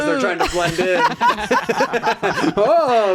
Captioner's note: laughing